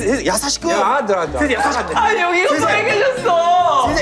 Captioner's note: hamster can't stop laughing